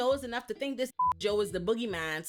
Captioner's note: beep